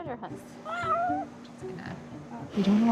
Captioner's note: cat meowing